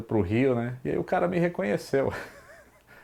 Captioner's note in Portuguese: risos